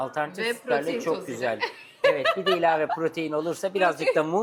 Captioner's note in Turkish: kahkaha